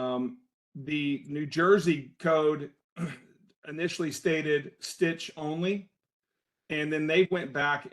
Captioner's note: cough